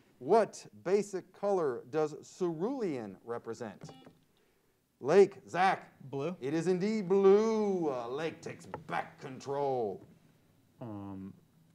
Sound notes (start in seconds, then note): 3.9 buzzer sounds